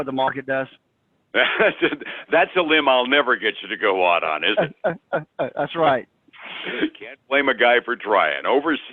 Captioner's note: laughs